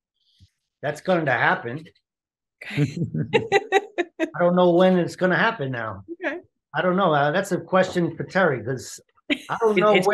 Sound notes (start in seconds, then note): 2.7 laughter